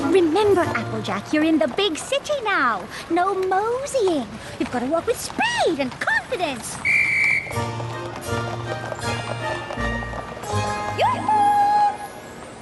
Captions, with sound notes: Remember, Applejack, you're in the big city now. No moseying. You gotta walk with speed and confidence! [police whistle blows] Yoo-hoo!